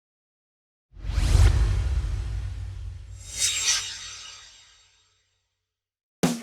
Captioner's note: swoosh